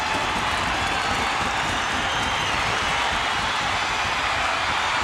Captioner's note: audience cheering